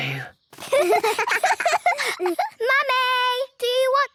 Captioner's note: laughter